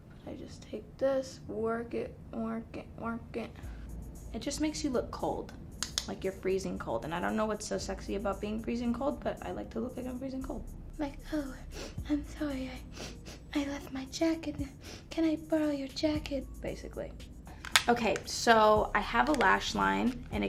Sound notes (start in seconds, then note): 5.6 tapping; 12.9 sniffing